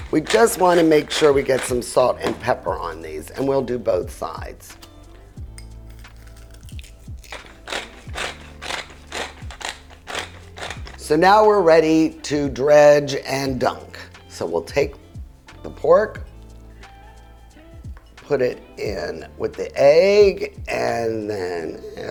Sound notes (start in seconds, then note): 7.7 grinding sound